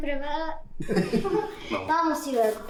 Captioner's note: Spanish; both laugh; Spanish